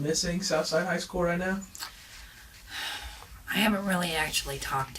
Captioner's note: sighs